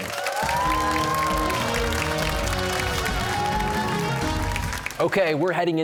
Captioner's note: cheers and applause